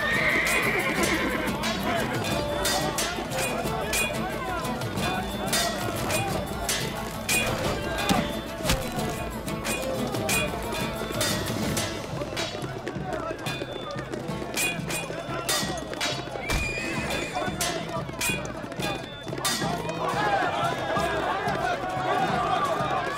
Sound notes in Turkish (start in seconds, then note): 0.0 At kişneme sesi; 3.8 Kılıç sesleri; 8.6 Kılıç sesleri; 13.6 Tezahürat sesleri; 16.6 At kişneme sesi; 18.7 Tezahürat sesleri